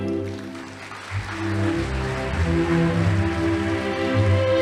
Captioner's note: audience applauding